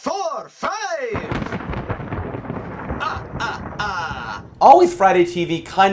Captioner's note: lightning